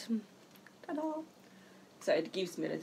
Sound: high pitched voice

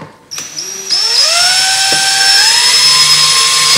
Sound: drilling

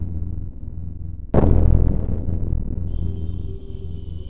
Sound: boom sound effect

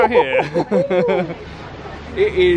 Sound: both laugh

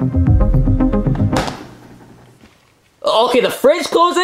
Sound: refrigerator door bangs

